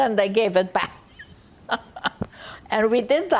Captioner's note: laughing